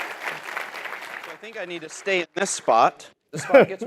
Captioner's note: applause